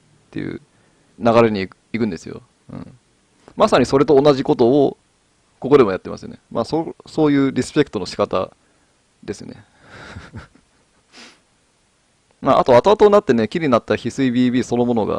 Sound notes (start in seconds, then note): 9.9 laughs